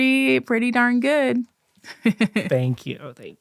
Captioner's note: giggling